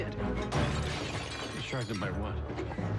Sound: shatters

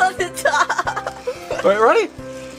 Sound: assistant laughing

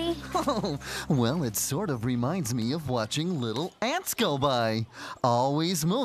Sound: chuckles

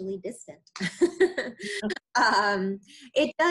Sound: laughing

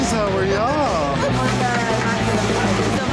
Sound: loud chatter; laughter

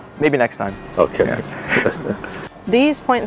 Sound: laughs

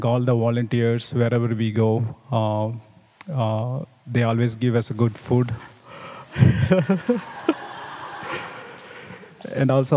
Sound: laughs

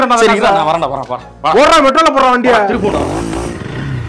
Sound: bikes driving fast

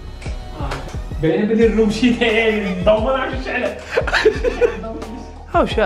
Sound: laughter

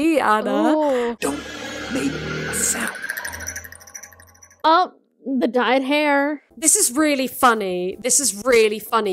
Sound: rattle sound effect

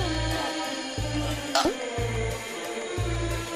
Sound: chokes

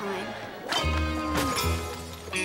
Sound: thud

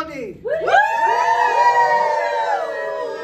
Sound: cheers

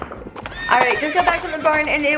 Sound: horse neighing

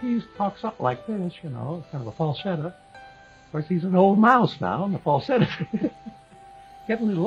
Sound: laughs

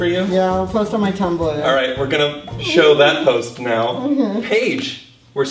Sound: whimpers

